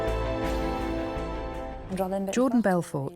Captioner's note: non-english speech